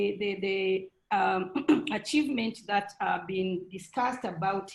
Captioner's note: clears throat